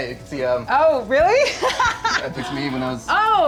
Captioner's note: laughs